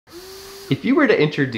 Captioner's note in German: Beatmungsgerät in Betrieb